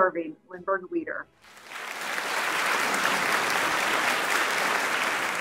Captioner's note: audience clapping